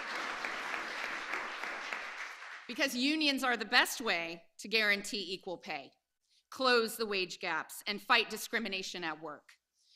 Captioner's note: applause